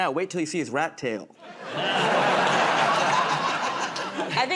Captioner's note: laughter